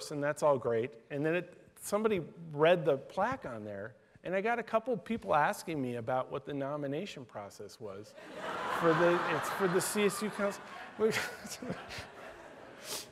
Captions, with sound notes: and that's all great. And then somebody read the plaque on there and I got a couple people asking me about what the nomination process was (laughter) for the it's for CSU cons, which (laughs)